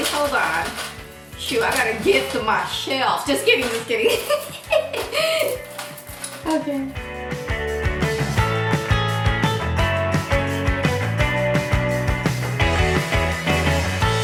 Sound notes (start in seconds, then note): 3.9 laughs; 7.4 upbeat music